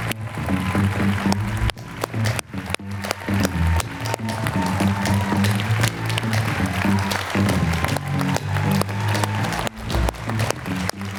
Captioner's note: applause